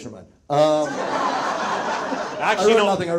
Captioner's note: audience laughs